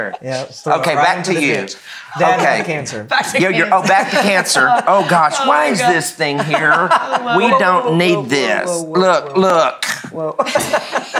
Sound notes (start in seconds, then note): 3.4 laughs